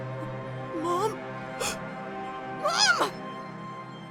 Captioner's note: gasp